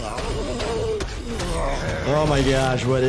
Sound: monster sounds

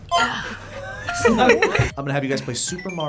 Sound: laughs

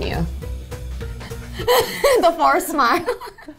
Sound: giggling

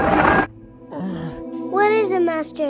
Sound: grunt

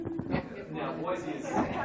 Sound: laughter

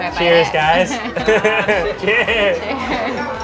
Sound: laughs

